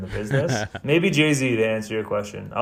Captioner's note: laughs